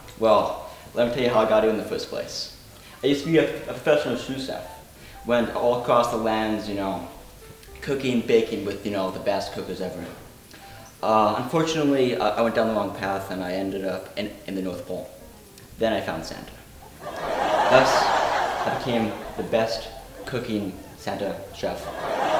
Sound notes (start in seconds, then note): 16.8 audience laughing